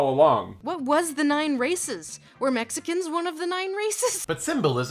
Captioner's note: laughs